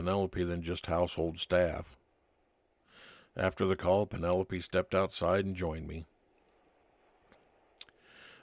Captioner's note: wind blowing